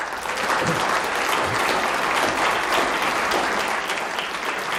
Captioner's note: audience applauds